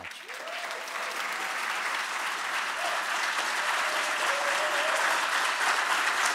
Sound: audience cheering and applauding

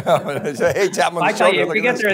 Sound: chuckling

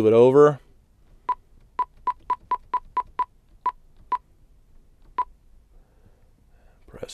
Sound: beeping

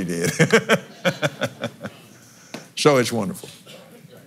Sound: laughs

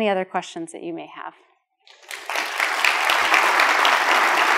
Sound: applause

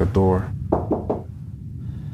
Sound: knocking

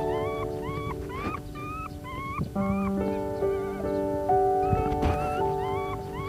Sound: we can faintly hear a puppy whimpering inside the grave

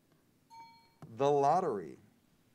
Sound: bell rings

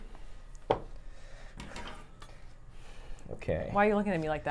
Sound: soap thuds

